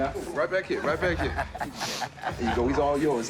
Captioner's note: laughs